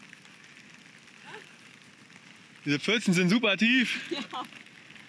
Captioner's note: laughs